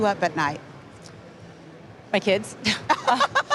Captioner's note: laughter